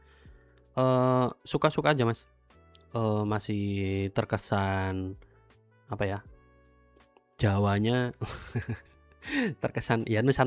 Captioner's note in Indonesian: tertawa